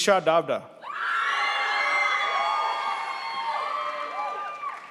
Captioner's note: crowd applauds